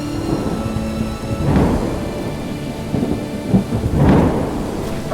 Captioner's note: lightning striking